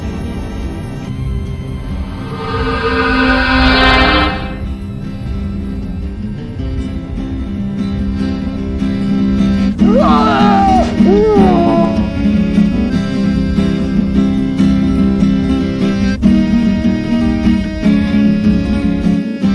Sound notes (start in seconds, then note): 3.0 portal chimes; 9.8 yells; 14.5 hurried guitar music